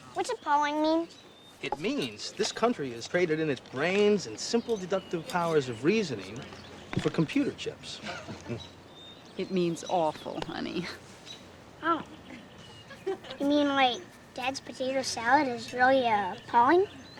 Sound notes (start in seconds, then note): 8.0 chuckles